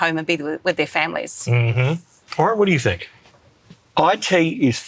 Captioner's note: hums approvingly